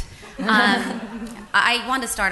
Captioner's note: laughter